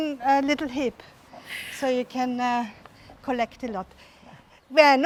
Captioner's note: hisses in surprise